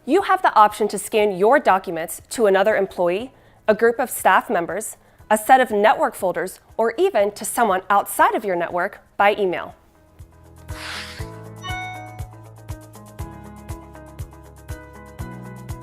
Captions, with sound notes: You have the option to scan your documents to another employee, a group of staff members, a set of network folders, or even to someone outside of your network by email. (gentle music) (alert dinging) (gentle music)